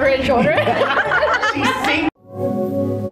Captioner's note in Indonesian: Ketawa